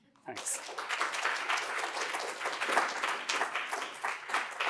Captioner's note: applause